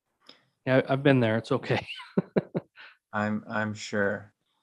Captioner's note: laughs